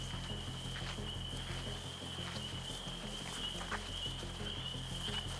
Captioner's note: cicadas continue buzzing